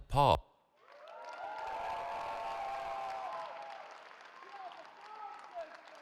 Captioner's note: cheering